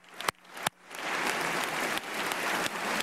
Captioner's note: applause